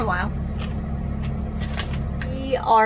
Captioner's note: crunching